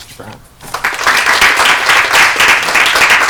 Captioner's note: applause